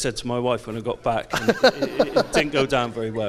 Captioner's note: audience laughs